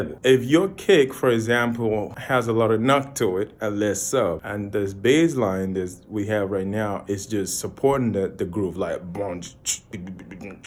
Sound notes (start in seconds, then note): 9.3 beatboxing